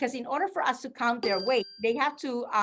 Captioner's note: bell chiming